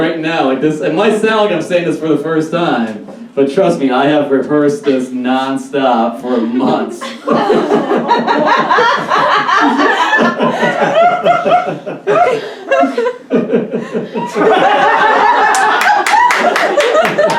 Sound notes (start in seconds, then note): 6.2 laughs Uncomfortably; 8.8 audience Laughs